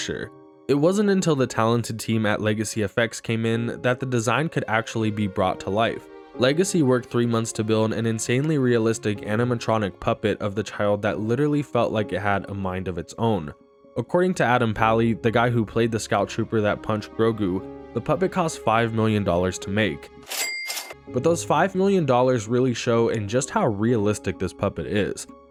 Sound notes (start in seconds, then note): 20.3 cash register sound effect